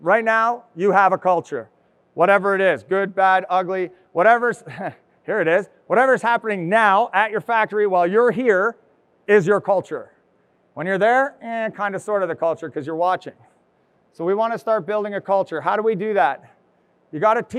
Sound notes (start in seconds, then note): 4.6 chuckles